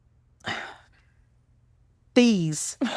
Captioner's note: sigh